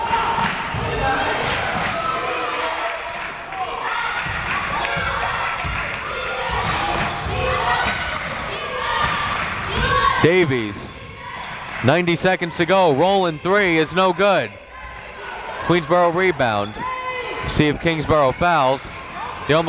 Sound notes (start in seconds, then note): 2.6 crowd chanting defense